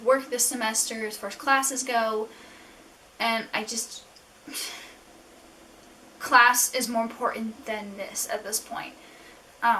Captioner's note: exasperated sigh